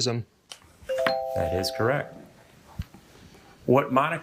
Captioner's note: bell ringing; buzzer ringing